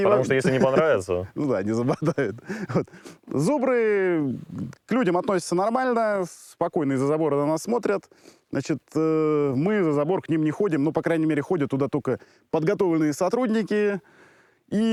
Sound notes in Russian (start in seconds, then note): 1.7 смех